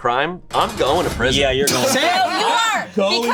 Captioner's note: metal clanging